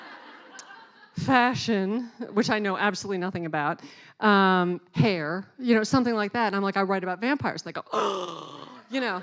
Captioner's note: laughing; gasp